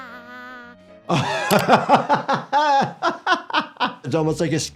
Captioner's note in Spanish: personaje infantil cantando; riendo